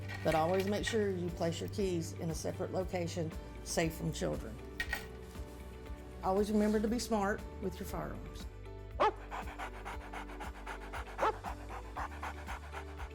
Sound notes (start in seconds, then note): 9.0 woof!; 9.0 Pepper panting